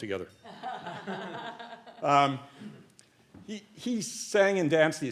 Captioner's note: laughing